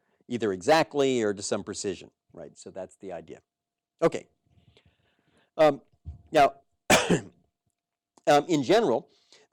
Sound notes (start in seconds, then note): 4.2 cough